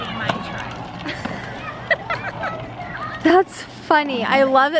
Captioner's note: laughing